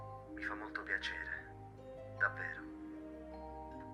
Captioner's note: Giulio on phone